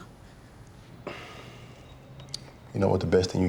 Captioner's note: exhales